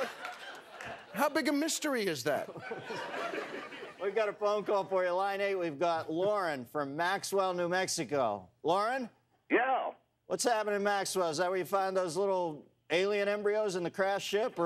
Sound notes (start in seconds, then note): 2.4 laughter